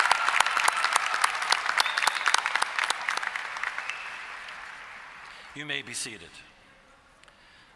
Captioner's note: applause